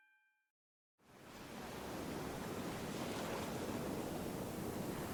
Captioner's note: water gently flowing